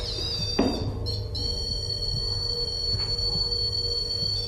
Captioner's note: electronic chirping